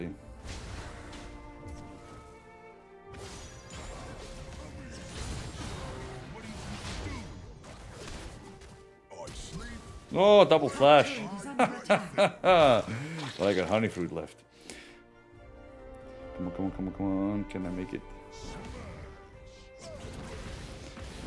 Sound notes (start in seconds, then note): 11.1 laugh